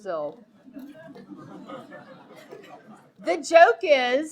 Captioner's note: audience laughing